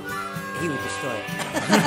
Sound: laughs

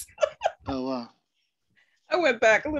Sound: laughs

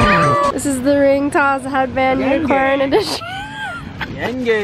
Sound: laughs; speaking in foreign language

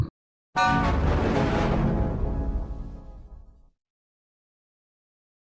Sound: 4-Eyed Devil Windows XP Shutdown Sound

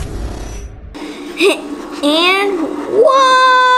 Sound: chuckles

